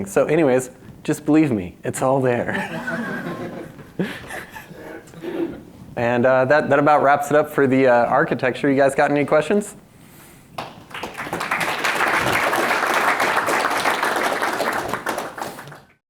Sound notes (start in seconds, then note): 2.5 audience laughs; 10.5 audience claps